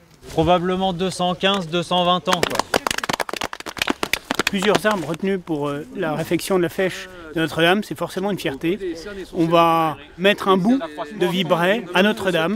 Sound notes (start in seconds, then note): 2.2 applause